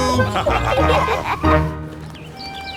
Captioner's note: laughter